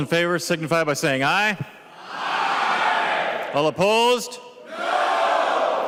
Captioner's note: chorus of ayes